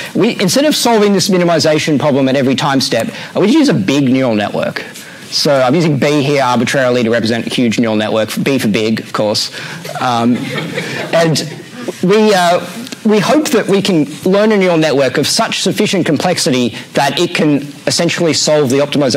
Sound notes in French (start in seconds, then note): 9.8 rires